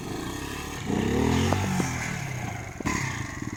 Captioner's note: revving